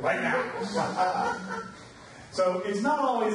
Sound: audience laughs

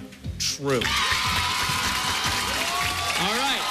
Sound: cheers and applause

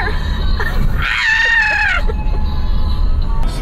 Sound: laughing; demonic sounding; laughing; singing

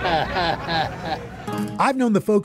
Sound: chuckles

